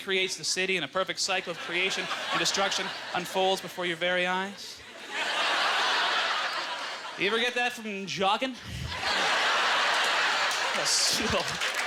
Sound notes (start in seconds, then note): 4.8 audience laughter; 8.8 audience laughter